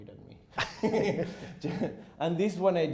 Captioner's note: chuckles